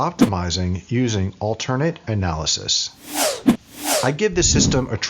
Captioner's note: whooshing